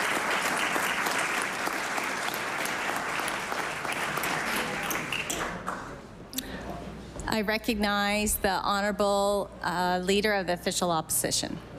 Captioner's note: applause